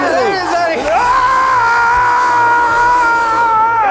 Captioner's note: shouting